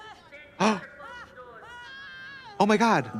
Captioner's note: Trixie gasps